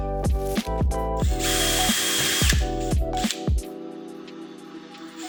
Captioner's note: drill whirring